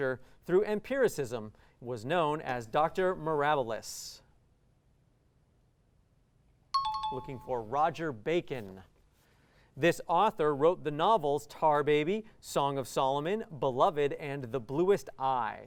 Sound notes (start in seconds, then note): 6.7 pinging